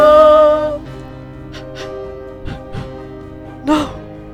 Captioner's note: sobs* No